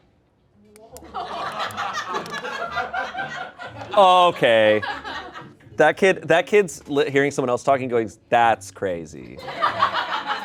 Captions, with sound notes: (everyone laughs) Oh, okay. That kid's hearing someone else going, "That's crazy."